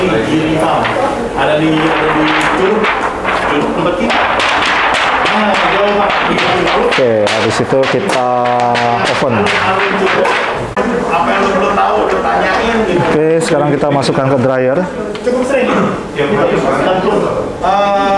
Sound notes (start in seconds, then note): 8.7 PET film sound; 9.4 distant chattering